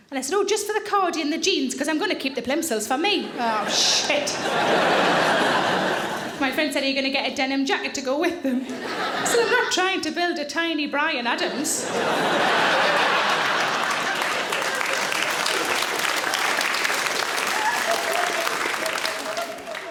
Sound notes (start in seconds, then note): 3.2 audience laughing; 11.4 audience laughing; 12.0 audience applauds